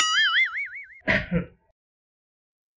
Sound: cough

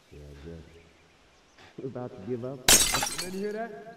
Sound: glass shatters

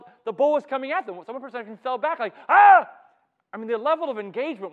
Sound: screams

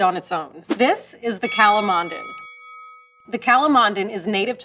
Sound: bell dings

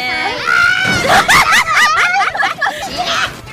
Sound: laughing

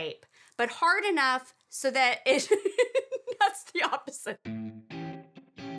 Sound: laughs; music intro

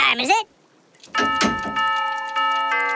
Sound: clock ringing

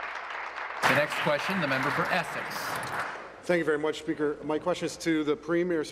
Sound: applause

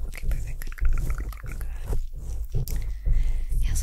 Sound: mouth Sounds; scraping Continues

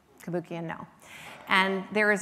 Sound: none

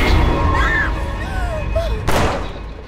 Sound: music hit; Pilar and Shelley scream; gun shots

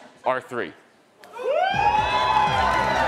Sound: attendees cheering; upbeat music

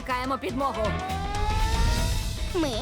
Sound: siren wailing

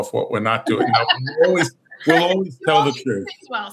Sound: laughs

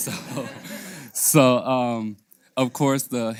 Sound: laugh

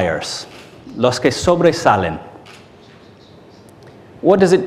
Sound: in Spanish

